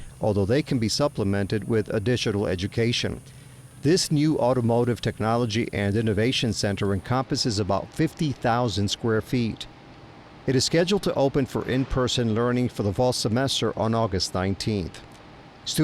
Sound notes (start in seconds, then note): 8.2 machinery humming